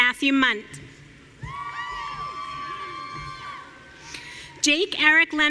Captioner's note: audience cheering